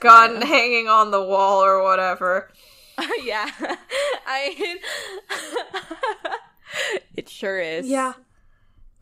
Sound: laughs

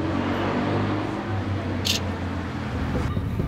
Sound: camera click

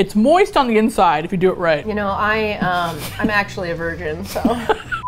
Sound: laughs

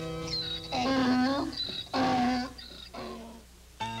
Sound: mule braying

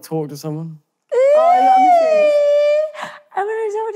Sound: jeering

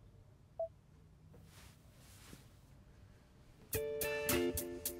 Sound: phone beeps; hopeful music

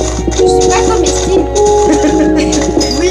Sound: laughs

